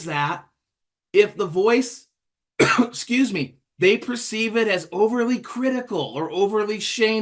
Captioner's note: cough